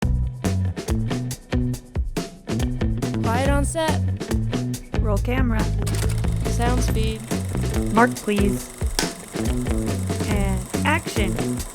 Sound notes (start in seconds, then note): 5.9 camera whirs; 8.8 slate claps